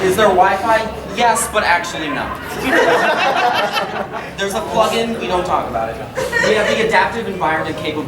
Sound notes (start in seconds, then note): 2.9 audience laughing; 6.3 audience laughing